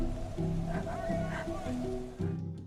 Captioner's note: shouting